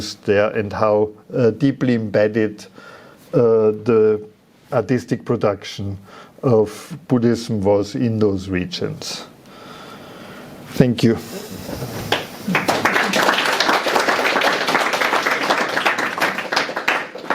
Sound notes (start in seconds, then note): 11.7 audience applauding